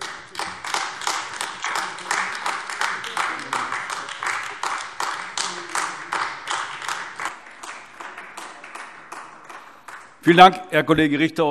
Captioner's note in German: Beifall AfD